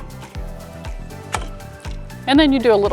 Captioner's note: pop Sound